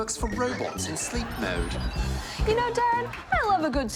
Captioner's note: laughter